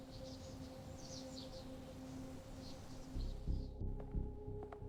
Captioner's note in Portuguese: sons de pássaros